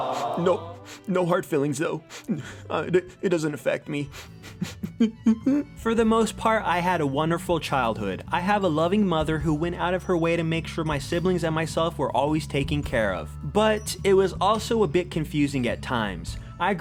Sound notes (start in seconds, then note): 5.2 cries